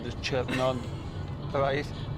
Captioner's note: Anna laughing